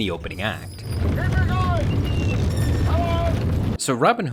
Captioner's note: castle rumbling